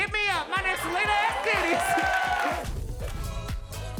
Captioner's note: audience cheering; uptempo music